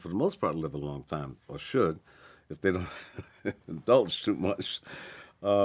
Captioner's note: chuckles